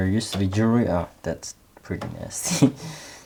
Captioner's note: laughs